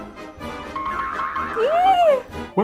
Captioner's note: circus music; spring sound effect